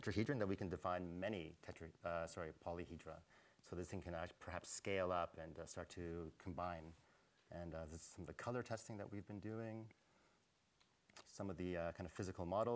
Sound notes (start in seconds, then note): none